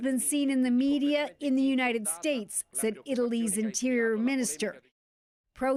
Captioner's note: speaking another language